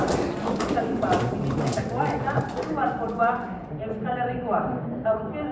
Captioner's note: backstage ambient sound